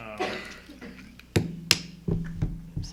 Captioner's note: mic drops